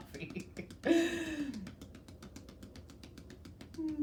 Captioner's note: hands tapping